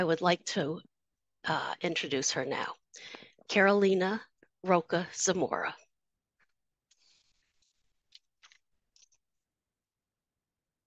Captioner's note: muted